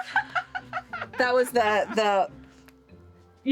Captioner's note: laughing